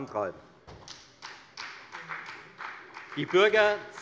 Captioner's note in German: Beifall bei der FDP